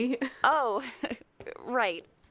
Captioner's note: awkward chuckle